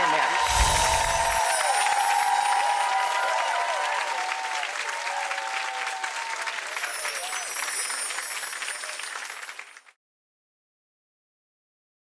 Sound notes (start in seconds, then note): 0.0 cheering and clapping; 0.1 bells chiming; 4.3 audience cheering and clapping; 6.6 bells chiming